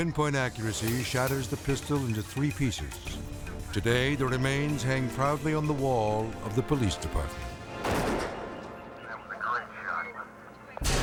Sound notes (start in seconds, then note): 7.8 gunshot fires